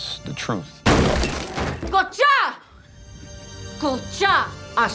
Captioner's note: speaking Indigenous American language